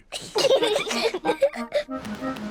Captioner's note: both giggling